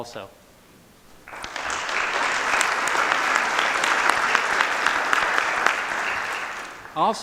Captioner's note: applause